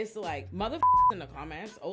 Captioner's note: beep